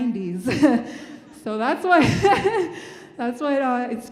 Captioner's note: laughing